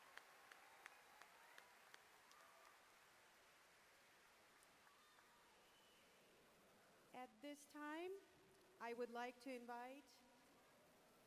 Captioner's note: applause